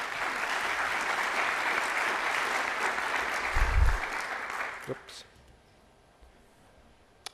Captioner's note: applause